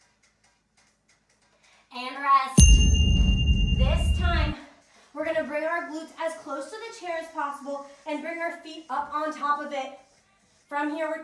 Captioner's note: ding